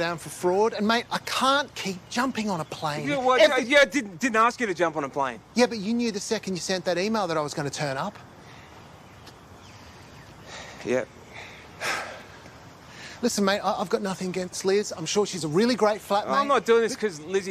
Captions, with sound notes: and, mate, I can't keep jumping on a plane every... You know what? I didn't ask you to jump on a plane. Yeah, but you knew the second you sent that email that I was gonna turn up. - (SIGHS) Yep. - (JOSEPH SIGHS) Listen, mate, I've got nothing against Liz. I'm sure she's a really great flatmate... I'm not doing this 'cause Lizzie told me to.